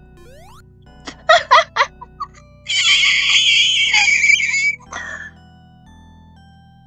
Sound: jump sound; laughing and dying pig noises

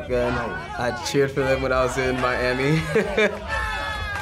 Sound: chuckles

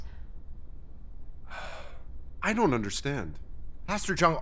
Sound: sigh

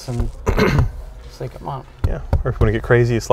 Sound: taps on seat

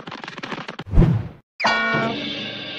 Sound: whoosh; bonk!

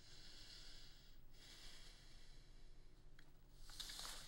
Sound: deeply exhales

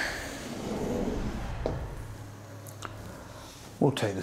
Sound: Anna sighs

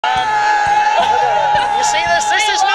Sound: yelling

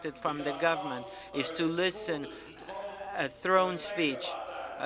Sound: speaking in french

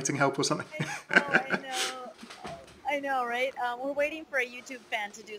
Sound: laughing

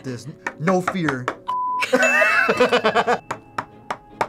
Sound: both laugh

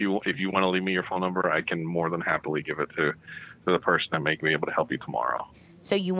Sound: none

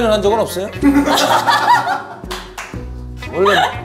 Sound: hahaha

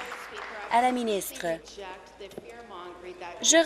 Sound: applause

